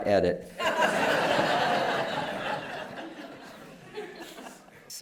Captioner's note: laughter